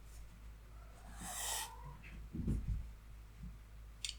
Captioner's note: distant meowing and slamming